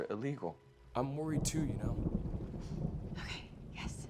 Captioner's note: thunder rumbling